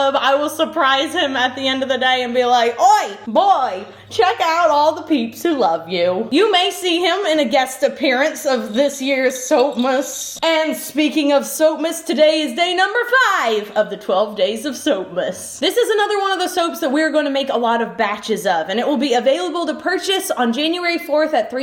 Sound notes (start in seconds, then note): 8.2 bells jingling